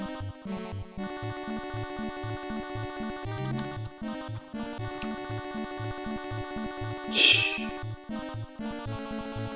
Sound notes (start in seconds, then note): 6.9 laughs softly